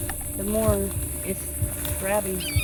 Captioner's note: hawk calling